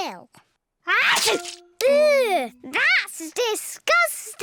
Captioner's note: sneezes